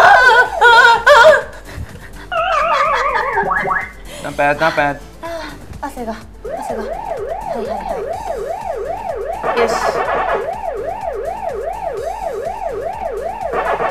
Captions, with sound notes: (screaming) (laughing) - Not bad, not bad. (speaking in foreign language) (game beeping) (speaking in foreign language)